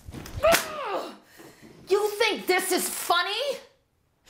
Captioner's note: mother yells